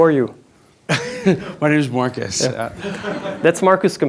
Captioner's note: chuckles